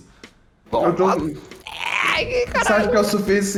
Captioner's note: blergh